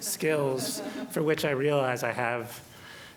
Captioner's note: laughter